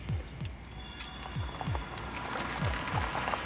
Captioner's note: car approaching